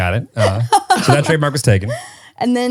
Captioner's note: laughing